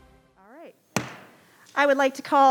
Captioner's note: gavel bangs